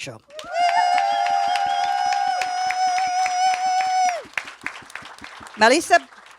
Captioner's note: audience and panelists applaud and cheer